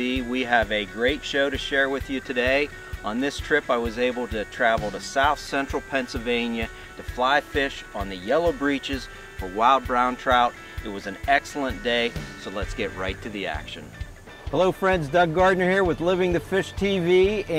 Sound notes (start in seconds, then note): none